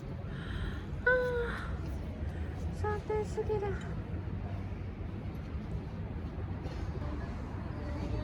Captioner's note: gasp